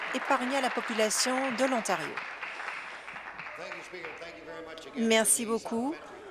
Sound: applause

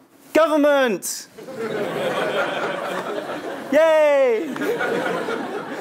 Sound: laugh

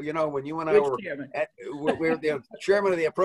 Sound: laughs

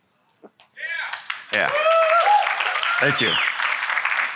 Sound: applause

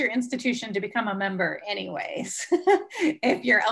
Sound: laughs

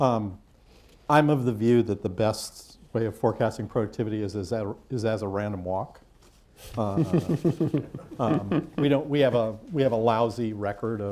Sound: laughter

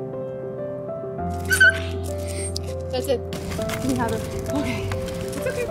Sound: squeal

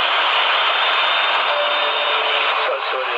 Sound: sound Of Intercom Chime

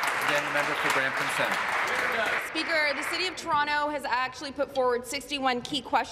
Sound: applause

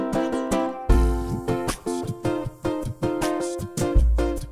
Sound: beatboxing

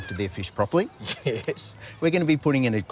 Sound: laughs

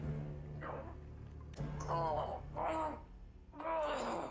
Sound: grunting

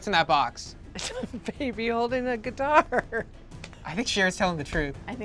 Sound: laughs

